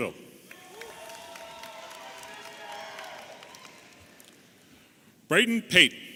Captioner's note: audience applauding and cheering